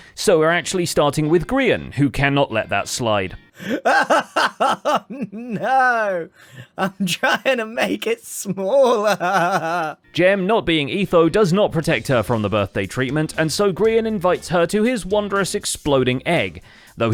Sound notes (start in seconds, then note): 3.6 triumphant laughter